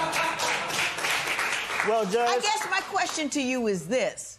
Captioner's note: laughter